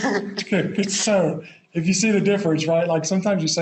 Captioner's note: laughs